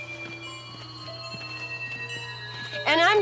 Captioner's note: footsteps pattering slowly